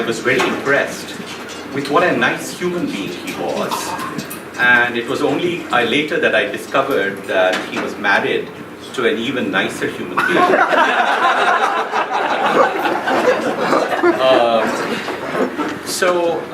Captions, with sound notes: I was very impressed by what a nice human being he was, and it was only later that I discovered that he was married to an even nicer human being. (laughing)